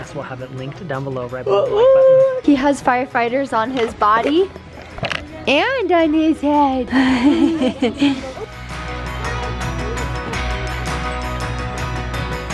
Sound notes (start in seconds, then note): 6.9 laughs; 6.9 bright pop music